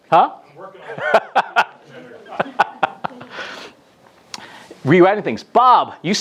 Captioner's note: laughter